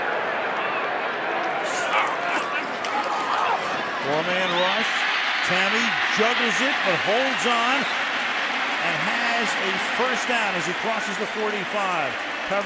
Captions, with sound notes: Tamme juggles it but holds on and has a first down as he crosses the 45. Covered by Dwight Lowery. [cheering] Again, no pass rush at all by the Jets.